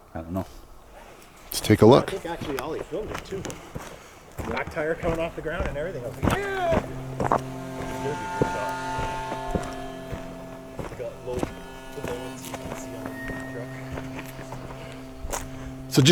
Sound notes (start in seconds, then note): 7.7 group chattering indistinctly; 9.3 unsettling music